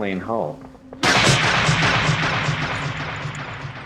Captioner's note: gunfire echoes